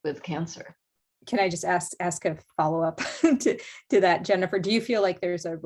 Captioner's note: laughter